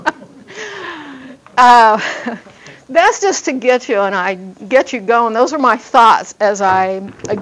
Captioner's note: laughs